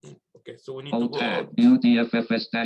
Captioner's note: automated Voice